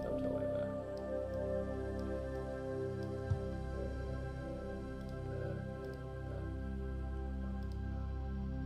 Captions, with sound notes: Yeah, something like that. (gentle music) (mouse clicking)